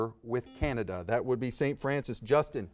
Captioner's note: buzzer beeping